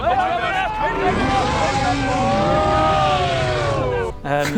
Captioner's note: breathtaking_roar.mp3